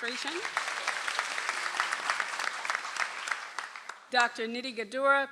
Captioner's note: audience applauds